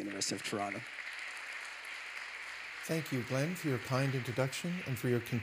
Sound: applause

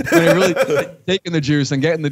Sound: laughter

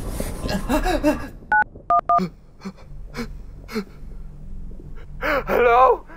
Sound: gasps; filmer gasping; phone dialing

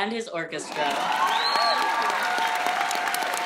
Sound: applause

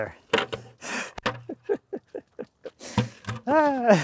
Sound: laughs

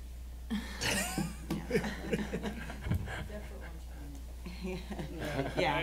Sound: laughing

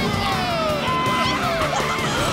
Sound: laughing

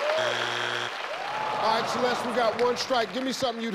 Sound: disappointment in crowd

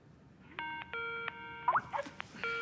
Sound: incoming video call

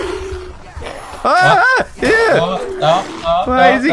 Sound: screams

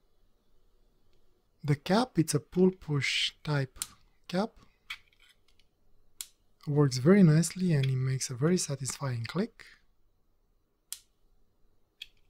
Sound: clicking noises

